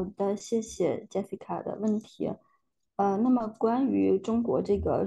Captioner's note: speaking in foreign language